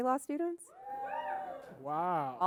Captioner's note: crowd woohs